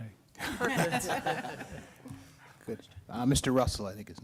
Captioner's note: laughter